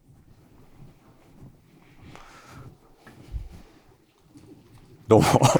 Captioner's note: silence